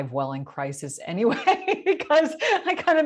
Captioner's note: laughing